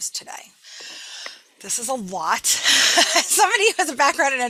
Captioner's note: laughs